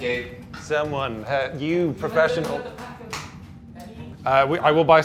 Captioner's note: clapping